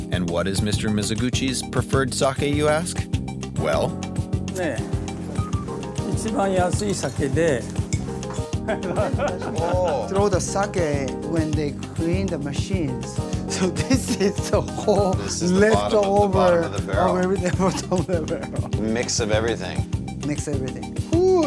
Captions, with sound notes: And what is Mr. Mizogushi's preferred sake you ask? Well. (man speaking Japanese) (people laughing) - Oh. - Throw the sake when they clean the machines. So this is the whole leftover. - This is bottom of the barrel. - Bottom of the barrel. - Mix of everything. - Mix everything.